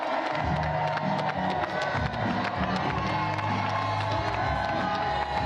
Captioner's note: cheers and applause